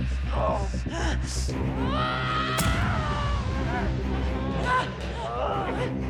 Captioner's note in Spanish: golpes; quejido